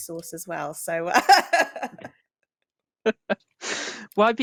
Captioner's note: laughs